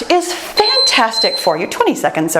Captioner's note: timer beeps